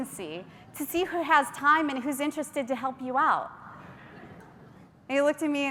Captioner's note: faint laughter